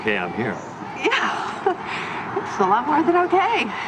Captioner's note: chuckles